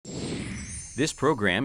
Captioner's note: logo whooshing and tinkling